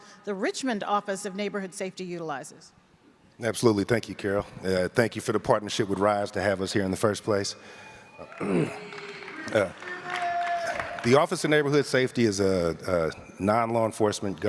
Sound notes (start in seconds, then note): 8.0 audience claps and cheers; 8.4 clears throat